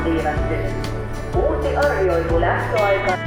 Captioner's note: announcement from loudspeakers